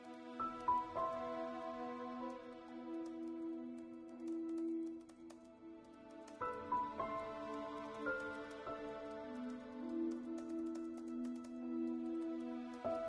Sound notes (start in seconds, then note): 0.1 soft piano music; 4.0 keyboard clacking